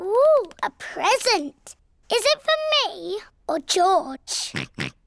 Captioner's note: oinks